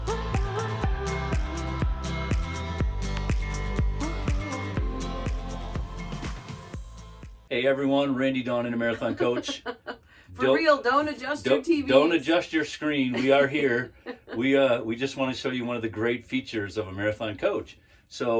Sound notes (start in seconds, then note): 9.0 laughs; 13.1 laughing